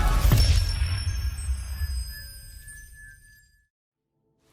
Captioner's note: logo tinkling